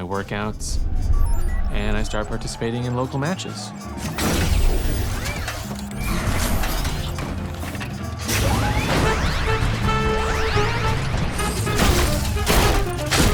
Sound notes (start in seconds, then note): 0.3 system beeping; 3.2 crowd cheering; 4.0 robots whir